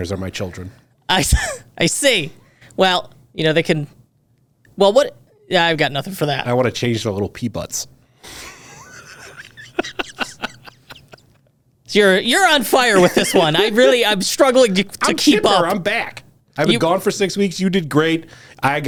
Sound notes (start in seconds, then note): 1.6 chuckles; 8.3 laughs